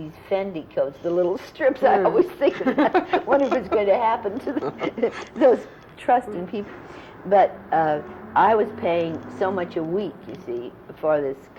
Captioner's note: laughter